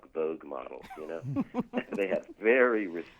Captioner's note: laughs